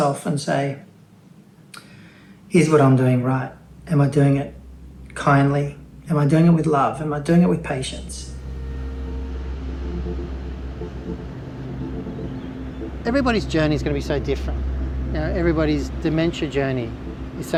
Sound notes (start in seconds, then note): 9.8 birds chirping; 9.8 gentle ambient music